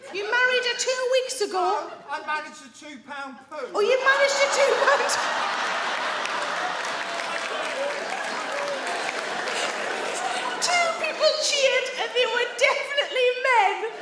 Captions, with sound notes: You married her two weeks ago? No, I managed a two-pound poo! Oh, you managed a two-pound... [THEY ALL LAUGH] [MEN CHEER] Two people cheered and they were definitely men!